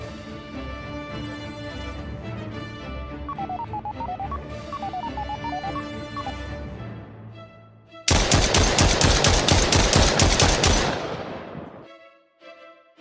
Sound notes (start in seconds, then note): 3.2 male prototype blipping; 8.0 gun blasting